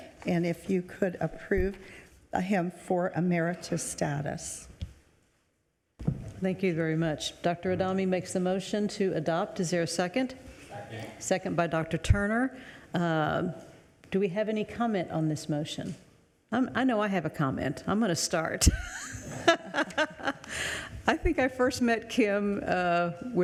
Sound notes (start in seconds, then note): 18.7 laughing